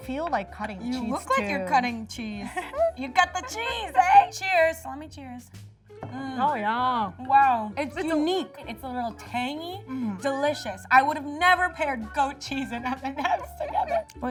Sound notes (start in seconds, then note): 2.4 laughing